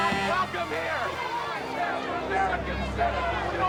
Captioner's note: crowd shouting